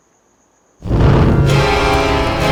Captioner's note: smoke whooshing; dramatic music